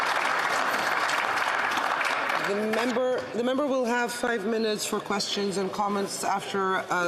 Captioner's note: some Applause